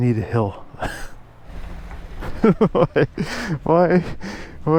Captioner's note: laughing